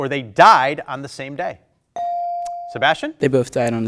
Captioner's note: buzzer dings